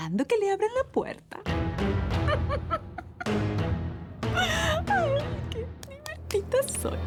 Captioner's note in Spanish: Risas